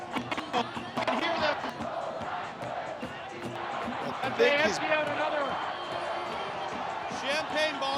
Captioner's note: cheers and Applause